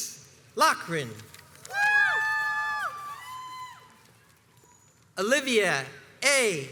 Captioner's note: crowds cheers and applauds